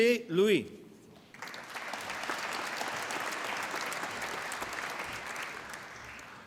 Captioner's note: applause